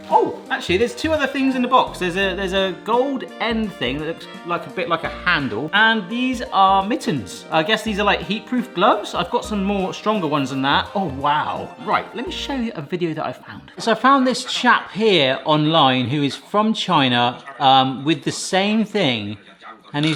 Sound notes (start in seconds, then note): none